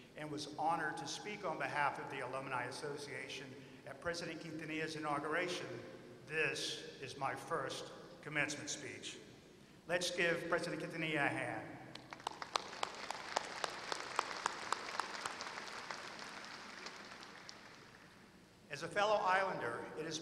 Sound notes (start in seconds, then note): 16.7 applause